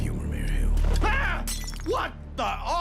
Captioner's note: glass breaks